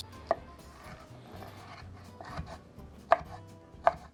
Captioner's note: knife hitting board